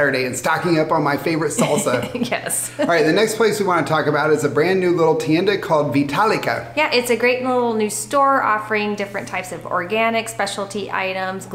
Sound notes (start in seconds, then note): 1.6 laughing